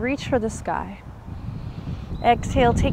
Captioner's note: takes deep breath